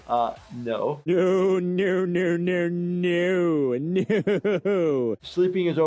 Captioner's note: laughing